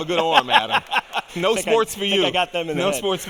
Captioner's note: laughing